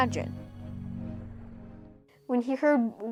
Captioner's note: strange warping noises